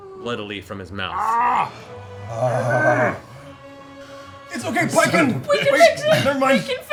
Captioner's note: disgusted noises